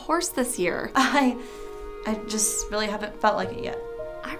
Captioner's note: chuckles